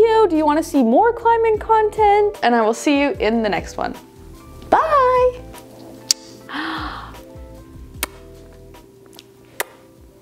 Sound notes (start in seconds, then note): 6.0 blowing air kiss